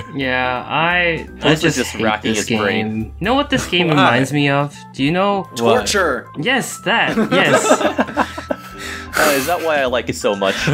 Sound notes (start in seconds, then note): 7.1 laughter